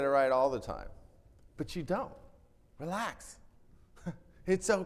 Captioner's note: chuckles